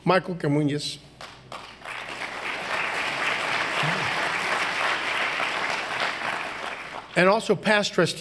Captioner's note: applause